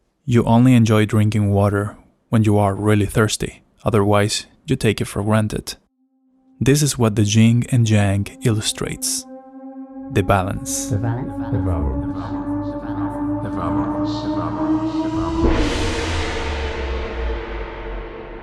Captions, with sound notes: You only enjoy drinking water when you are really thirsty. Otherwise, you take it for granted. This is what the Jing and Jiang illustrates. The balance [voices repeat] [Gong sound]